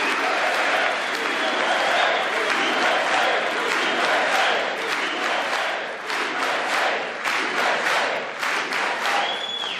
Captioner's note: applause